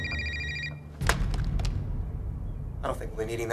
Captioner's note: clatter of falling cell phone